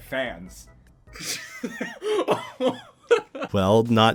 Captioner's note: chuckles